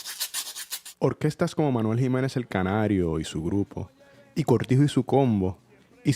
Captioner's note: narrator speaking Spanish